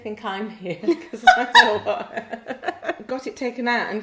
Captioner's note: laughs